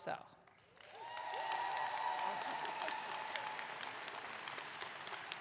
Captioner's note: audience clapping